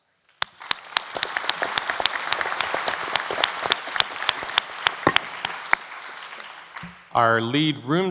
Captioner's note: applause